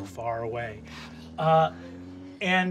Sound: engines rev

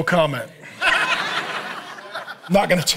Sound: audience laughing

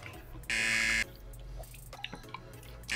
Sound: buzzer rings

